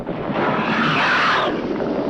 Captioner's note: screeching